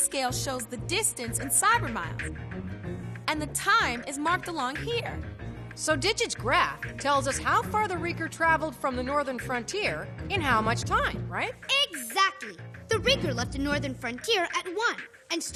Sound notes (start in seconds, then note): none